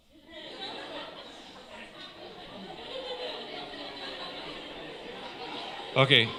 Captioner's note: laughter